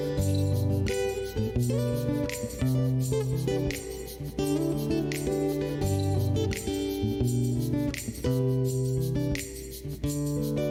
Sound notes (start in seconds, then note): none